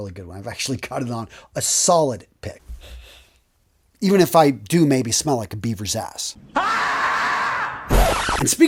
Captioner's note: sound effect